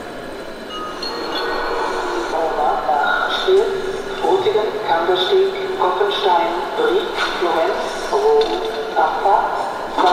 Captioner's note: gong and station announcement from decoder